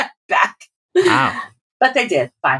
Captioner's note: laughter